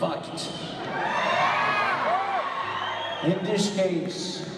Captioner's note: audience cheers